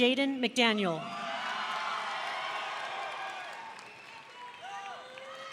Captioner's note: audience cheering